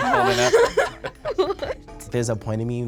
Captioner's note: laughs